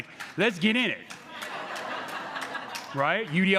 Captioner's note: crowd laughing